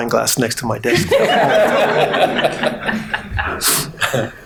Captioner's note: all laughing